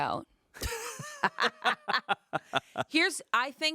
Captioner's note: laughing